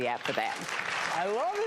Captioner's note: audience applause